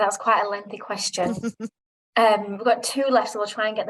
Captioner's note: chuckling